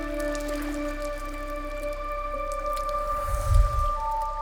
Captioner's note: none